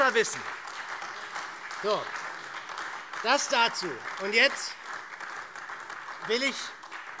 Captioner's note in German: Beifall